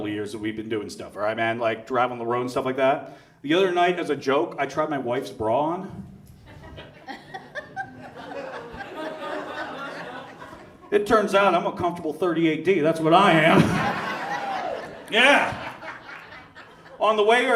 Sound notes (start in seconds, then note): 6.4 audience laughs; 13.4 audience laughs